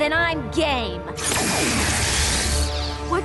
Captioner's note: zap